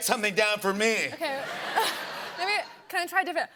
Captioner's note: laughter